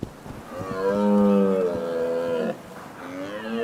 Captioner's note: stags bellow